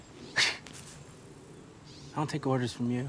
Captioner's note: scoffs